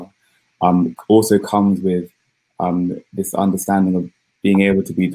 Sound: erm

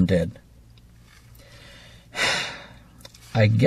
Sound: sigh

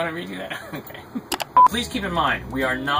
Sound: laughs

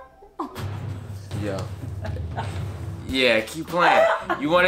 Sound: laughing

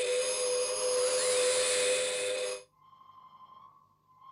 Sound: beeping fades into distance

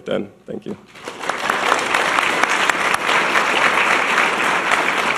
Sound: audience clapping

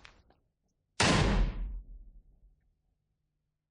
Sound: bang!!!

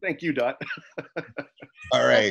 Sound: chuckling

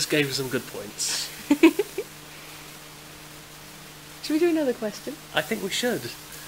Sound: laughs

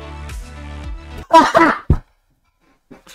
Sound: thud

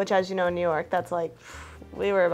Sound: sighs

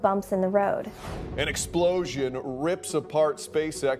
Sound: air whooshing

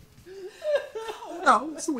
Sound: Trina crying

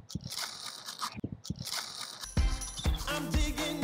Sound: brush scratching

